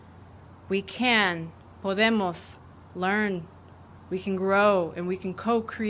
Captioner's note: speaking spanish